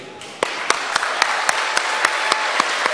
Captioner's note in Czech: potlesk